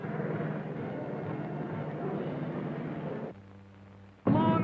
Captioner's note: crowd murmuring